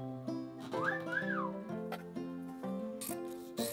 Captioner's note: whistling; scissors snipping